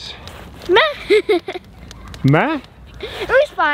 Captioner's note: laughing